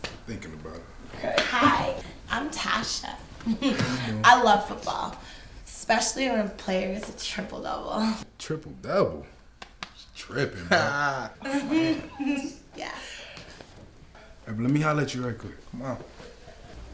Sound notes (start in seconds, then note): 10.5 laughing